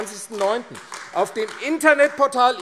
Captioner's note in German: Beifall AfD